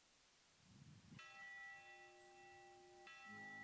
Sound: bell chiming; soft music

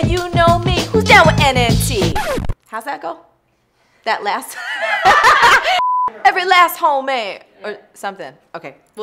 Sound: laughter

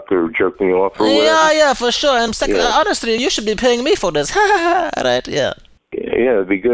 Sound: laughs

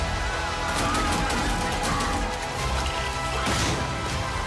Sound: yelling and shooting

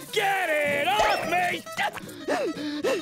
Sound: panting

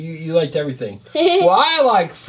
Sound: assistant laughs

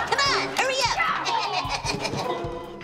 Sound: laughing

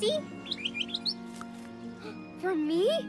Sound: chirps; gasps

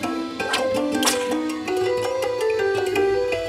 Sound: snapping

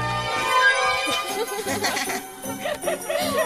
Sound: Roxanne and Rowie laughing

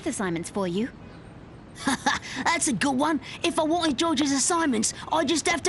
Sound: laughs

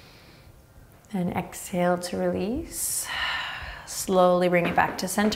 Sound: exhaling strongly

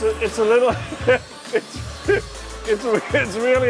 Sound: laughing

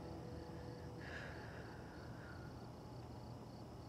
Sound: Sam sighs

